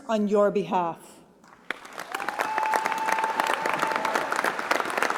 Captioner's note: applause